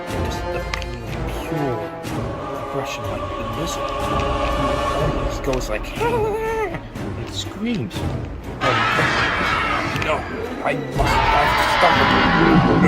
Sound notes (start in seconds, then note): 5.9 lizard laugh sound; 8.6 shriek